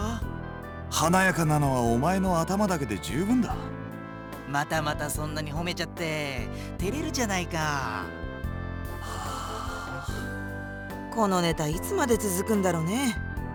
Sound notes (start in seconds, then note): 9.0 sigh